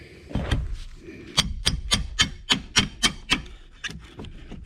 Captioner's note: hammer-hitting-crowbar